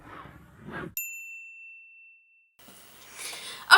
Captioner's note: bell